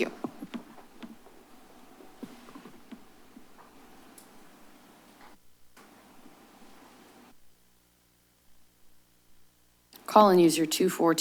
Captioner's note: silence